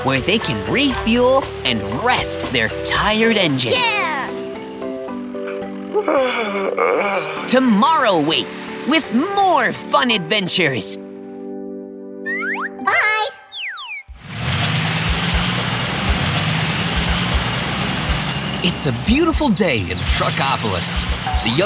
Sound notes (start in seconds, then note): 5.4 yawning; 14.5 engines humming